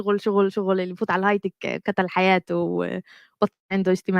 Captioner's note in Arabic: لغة أجنبية